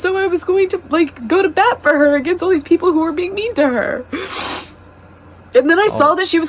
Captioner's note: sniffs